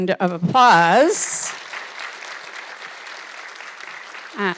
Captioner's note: audience clapping